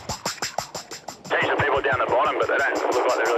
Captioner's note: man On Radio